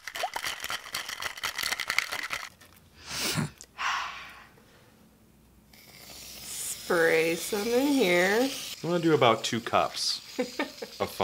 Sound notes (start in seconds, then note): 0.1 rattling; 3.0 sniffing